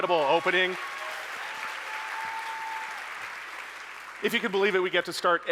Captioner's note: audience cheering; audience applauding